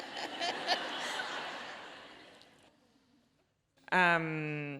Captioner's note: audience laughs